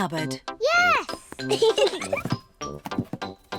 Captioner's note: both giggle